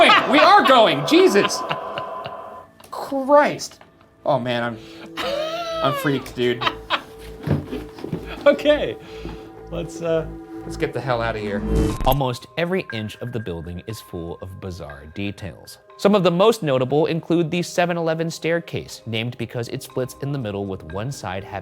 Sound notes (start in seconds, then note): 5.1 laughing